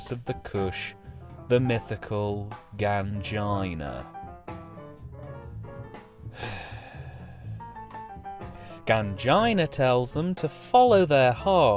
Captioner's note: sigh…